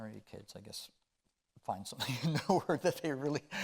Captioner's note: chuckling